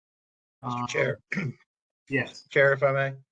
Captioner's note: cough